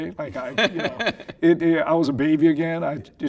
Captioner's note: laughing